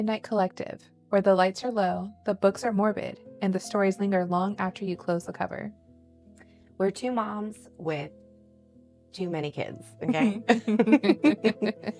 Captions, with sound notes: Welcome to Cozy Midnight Collective, where the lights are low, the books are morbid, and the stories linger long after you close the cover. We're two moms with too many kids... mmmk. (Chuckles)